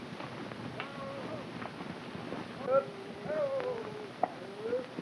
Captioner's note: cowboys whooping